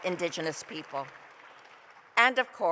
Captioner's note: applause